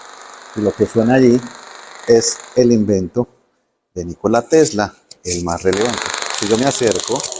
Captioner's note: electricity